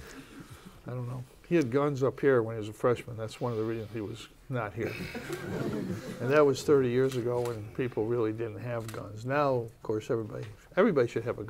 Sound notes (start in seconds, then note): 4.8 laughter